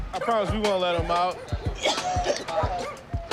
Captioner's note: coughs